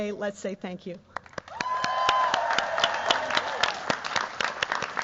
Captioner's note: cheers, applause